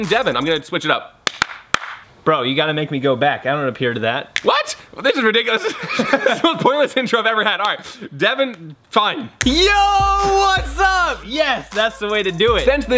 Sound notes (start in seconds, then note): 1.3 clap, clap, clap; 4.4 snap; 5.1 laughs; 9.1 snaps